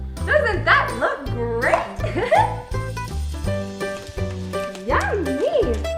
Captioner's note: laughing